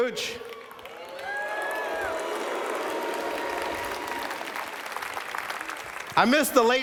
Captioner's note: cheers